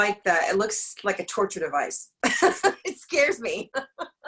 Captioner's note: laughs